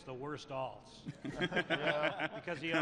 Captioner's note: laughter